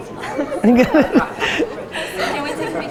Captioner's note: laughs